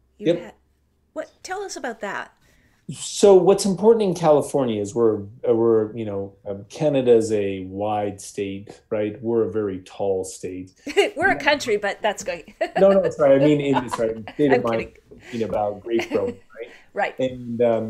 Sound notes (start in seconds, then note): 12.3 laughing